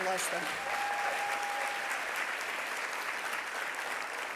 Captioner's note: audience applauding